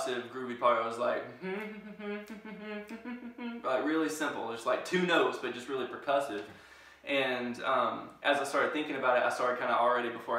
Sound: humming

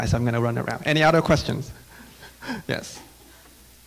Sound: chuckling

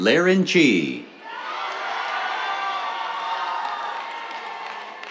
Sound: cheers, applause

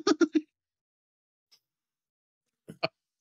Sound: laughs

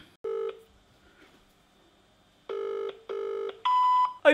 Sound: phone ringing

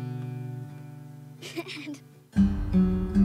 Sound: laughs

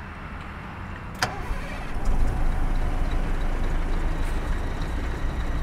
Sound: the sound of the engine being turned on

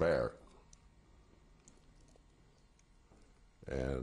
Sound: pauses for 3 seconds

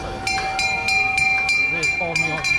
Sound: train bell digs

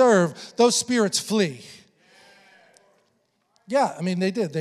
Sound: congregation affirming

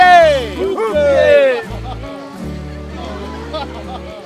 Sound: speaking in foreign language; men speaking in a foreign language

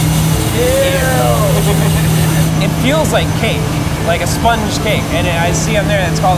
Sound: laughs

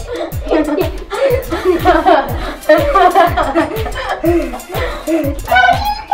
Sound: laughing

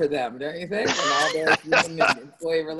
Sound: laughter

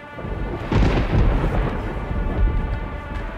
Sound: thunders

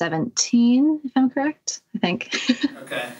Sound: laughter

